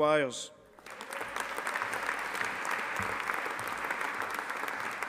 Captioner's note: audience applauding